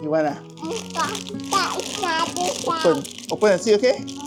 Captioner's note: baby talk